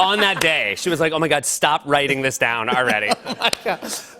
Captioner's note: laughter